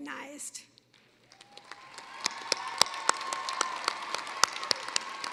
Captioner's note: cheering, applause